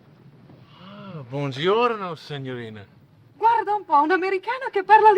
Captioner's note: speaking foreign language